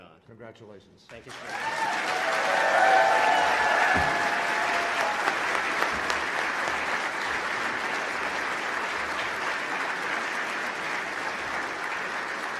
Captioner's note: applause